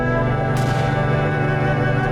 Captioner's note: gunshot